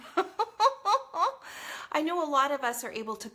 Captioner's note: laughs